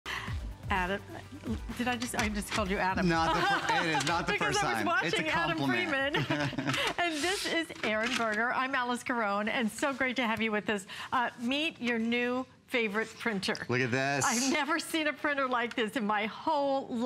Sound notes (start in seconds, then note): 3.2 laughter